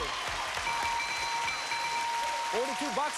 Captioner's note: cheers and applause